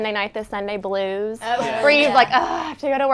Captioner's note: all muttering agreement